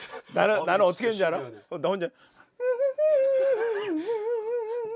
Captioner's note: just humming in mouth